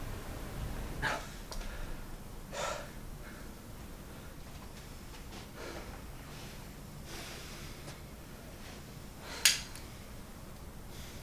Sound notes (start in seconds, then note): 9.5 gun clinks against head